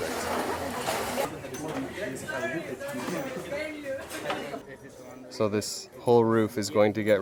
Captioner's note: crowd chatting in foreign language